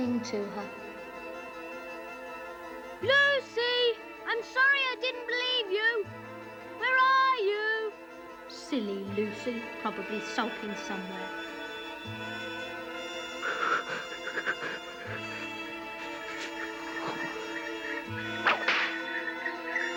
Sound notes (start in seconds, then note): 12.5 shivering; 18.4 whip cracking